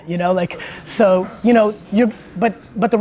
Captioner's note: group laughs